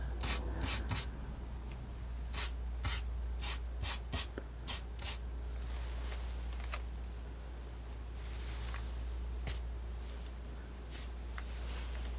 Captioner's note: scratching